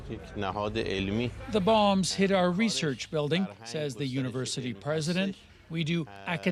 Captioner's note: speaking alternate language